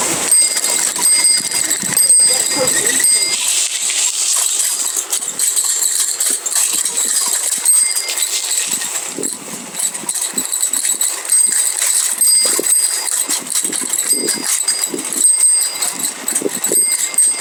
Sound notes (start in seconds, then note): 1.4 tires crunching on sand